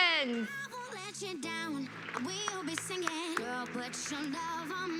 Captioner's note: applause